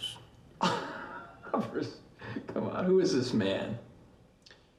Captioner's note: Michael laughs